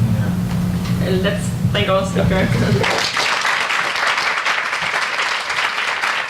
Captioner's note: audience applauds